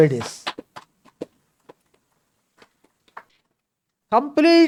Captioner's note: claps